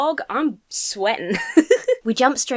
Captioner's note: laughs